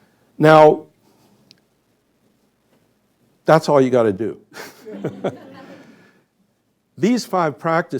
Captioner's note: laughter